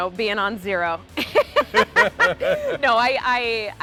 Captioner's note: both laughing